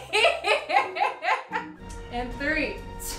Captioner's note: laughing